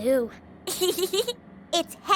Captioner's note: giggling